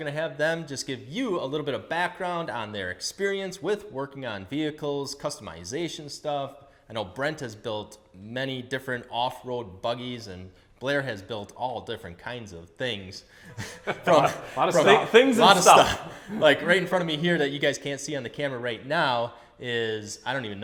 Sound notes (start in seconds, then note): 13.5 laughs